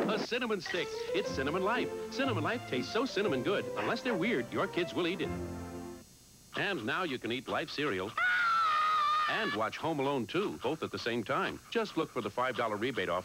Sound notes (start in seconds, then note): 8.1 screams